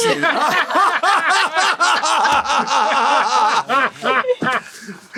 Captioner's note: all laughing